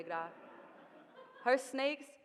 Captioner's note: audience laughing